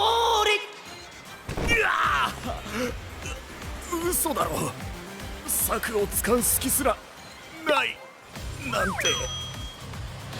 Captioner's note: ugh